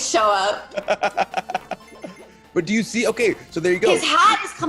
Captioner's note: laugh